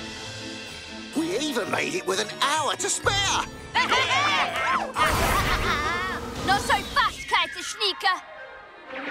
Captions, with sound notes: We even made it with an hour to spare! [all cheering] Not so fast, Kertasnikir.